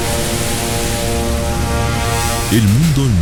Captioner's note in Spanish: SFX de sonido